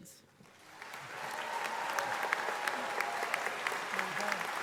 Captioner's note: audience applauding